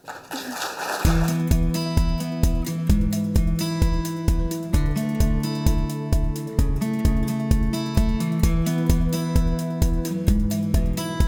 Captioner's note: applause, Music